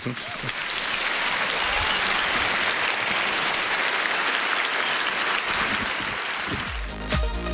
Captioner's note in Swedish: publiken applåderar